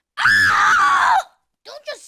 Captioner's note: girl screaming